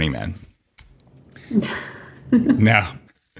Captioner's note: laughing